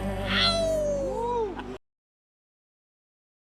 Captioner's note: howl